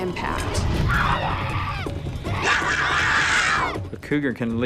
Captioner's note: screaming